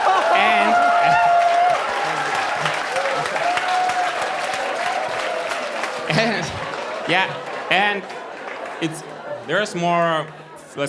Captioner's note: lots of laughter and applause